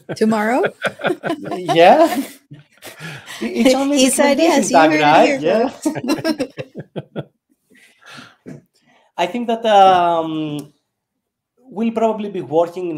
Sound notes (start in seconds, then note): 0.0 chuckles; 5.5 group chuckling